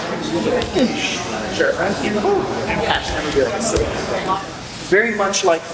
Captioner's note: clap; indistinct conversation